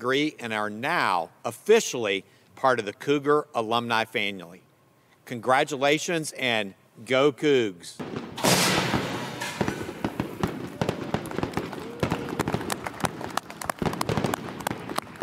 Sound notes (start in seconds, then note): 8.0 confetti pops; 10.8 congregation claps